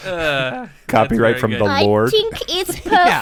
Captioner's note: Werner Herzog voice